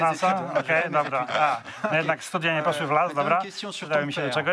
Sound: laugh

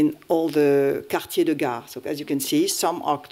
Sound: french

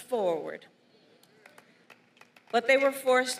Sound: applause

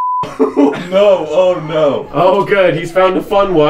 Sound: laughs

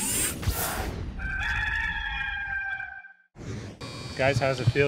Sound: rooster crowing

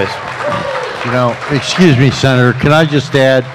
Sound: applause

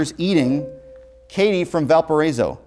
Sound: buzzer

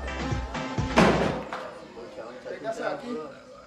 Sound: slams radio turns music off

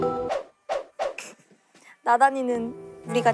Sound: chuckling

